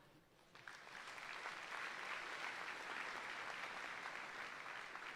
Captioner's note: audience applauding